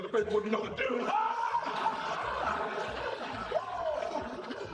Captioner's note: all laughing